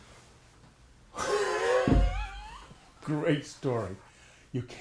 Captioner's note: laughs